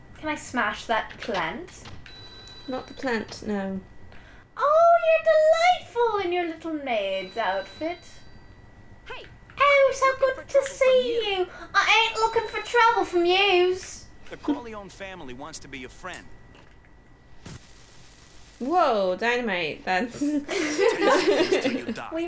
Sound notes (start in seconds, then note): 9.5 english accent; 11.6 cockney accent; 14.3 game audio; 20.4 laughter